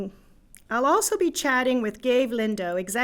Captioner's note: in English